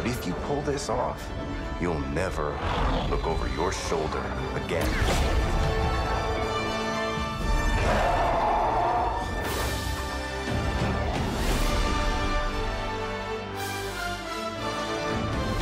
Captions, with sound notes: But if you pull this off, you'll never look over your shoulder again. [DRAMATIC MUSIC PLAYING] [LOUD ROARING] [TRIUMPHANT MUSIC PLAYING]